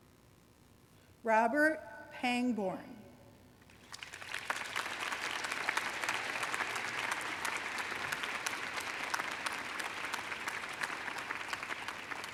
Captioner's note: applause